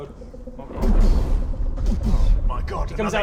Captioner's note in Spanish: Boom boom